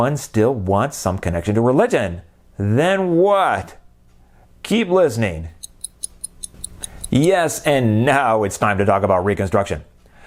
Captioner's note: clock ticking